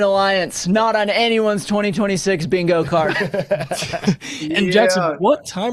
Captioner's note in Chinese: 笑声